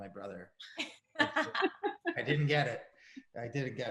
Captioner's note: Sarah laughs; laughs